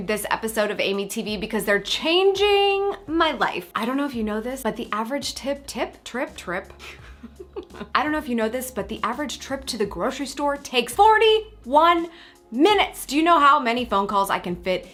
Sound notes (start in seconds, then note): 6.8 laughs